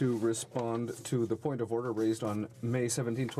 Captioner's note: speaking french